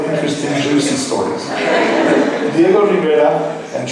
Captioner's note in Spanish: laughs